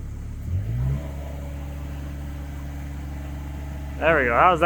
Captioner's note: motor humming